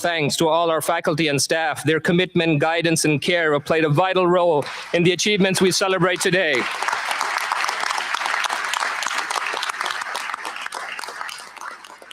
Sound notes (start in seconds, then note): 5.9 applause